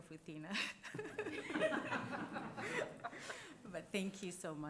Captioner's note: directors laughing